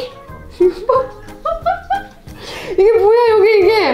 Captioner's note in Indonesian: tertawa